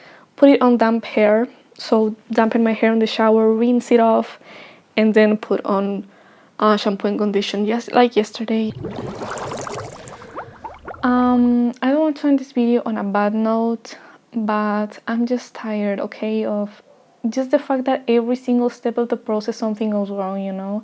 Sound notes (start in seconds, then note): 8.7 Spongebob bubble transition sound